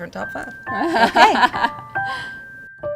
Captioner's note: laughs; melodic piano music